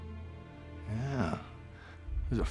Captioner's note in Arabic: لهجة اسكتلندية